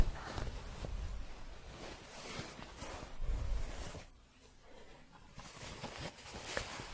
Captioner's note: shuffling, light scratching